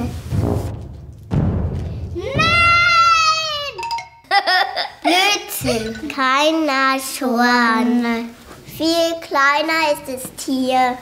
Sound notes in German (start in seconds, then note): 0.2 Trompetenton, Poltern; 4.3 Lachen